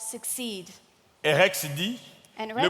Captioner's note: speaking in French